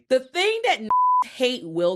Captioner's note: beep